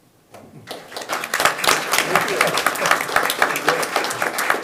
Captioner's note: audience clapping